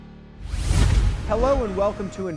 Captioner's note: scene swooshing